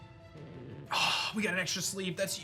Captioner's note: scoffs